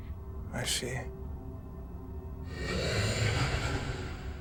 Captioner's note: solemn music continues; creature growling